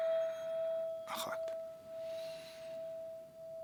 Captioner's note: inhale